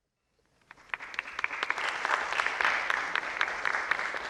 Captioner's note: audience clapping